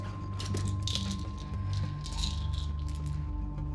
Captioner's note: pills rattling